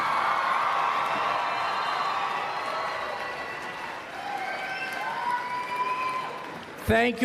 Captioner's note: applause and Cheering